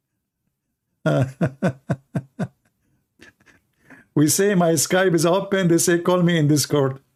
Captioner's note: Ketawa